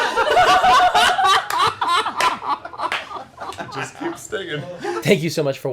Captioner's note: laugher